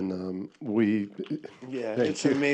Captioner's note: applause